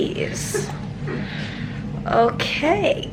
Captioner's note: chuckling